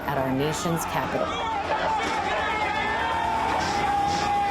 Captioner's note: crowd yelling